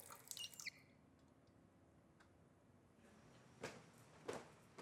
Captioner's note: faucet creaking; stairs creaking